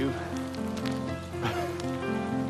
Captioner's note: laughs; piano playing